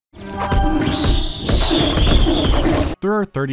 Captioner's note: insufferable shrieking